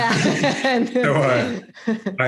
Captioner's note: both laugh